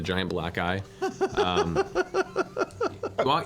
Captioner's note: laughs